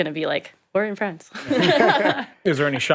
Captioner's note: all laugh